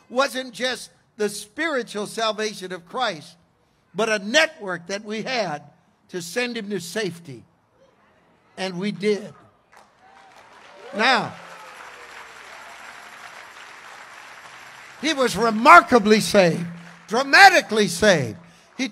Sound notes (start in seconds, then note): 9.5 congregation cheers; 11.8 congregation applauds